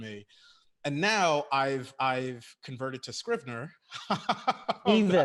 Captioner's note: laughs